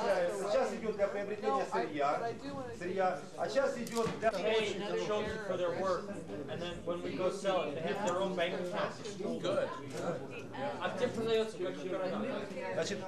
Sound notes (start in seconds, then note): 0.3 russian speech; 2.7 russian; 10.8 russian speech